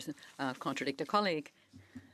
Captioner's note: speaking French